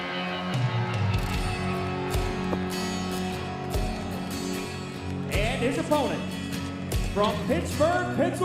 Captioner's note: crowd cheering